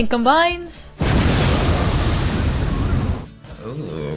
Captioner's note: explosion sound effect